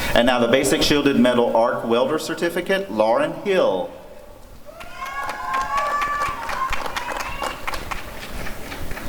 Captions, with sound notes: And now the Basic Shielded Metal Arc Welder Certificate— Lauren Hill [applause and cheering]